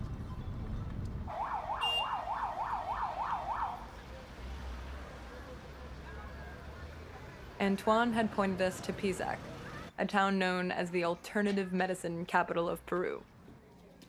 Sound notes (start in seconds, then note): 1.3 sirens